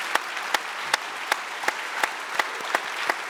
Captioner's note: applause